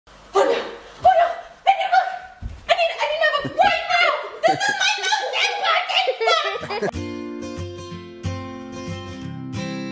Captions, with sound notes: - Oh no, oh no! I need a book! I need to have one right now! This is my most important book! (laughing) (guitar music)